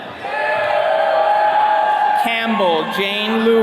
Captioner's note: attendees cheering